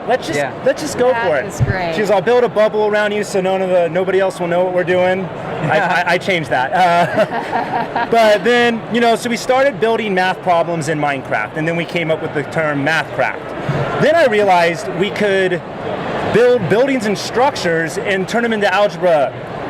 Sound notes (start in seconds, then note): 6.7 laughing